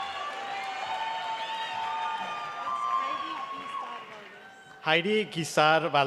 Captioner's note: cheering and applause